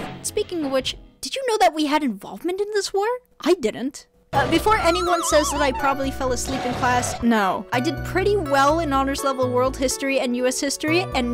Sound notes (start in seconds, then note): 4.3 dog snoring